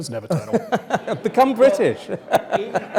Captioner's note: laugh